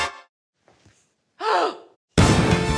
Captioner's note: gasps; explosion